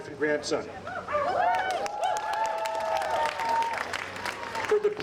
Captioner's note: audience applauding